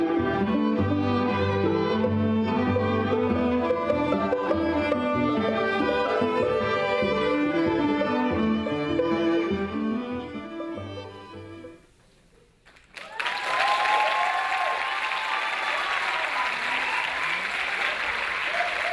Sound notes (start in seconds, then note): 12.6 audience applauding